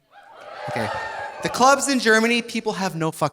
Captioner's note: audience cheering